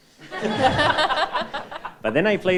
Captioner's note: all laughing